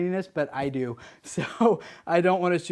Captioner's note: chuckles